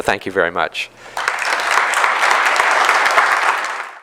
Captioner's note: clapping